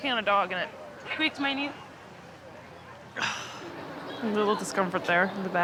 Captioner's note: exhales